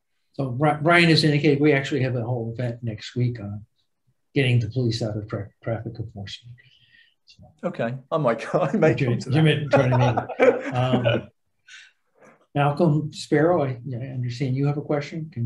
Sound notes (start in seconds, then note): 8.8 mumbling; 9.5 laughing